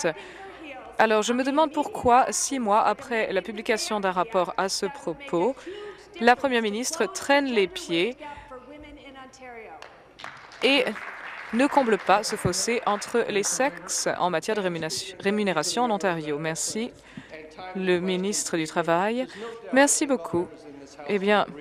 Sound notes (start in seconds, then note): 14.6 applause